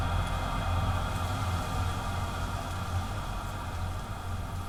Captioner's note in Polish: szum drzew